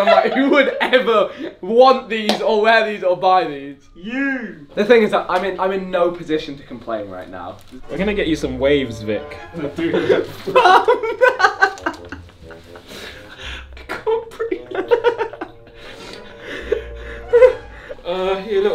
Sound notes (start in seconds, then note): 11.3 laughs